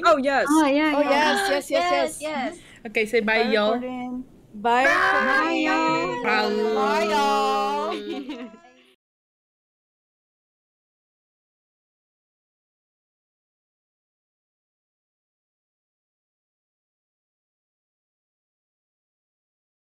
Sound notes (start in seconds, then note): 4.6 a chorus of byes starts; 4.8 Zoe's screeching sound; 7.8 laughter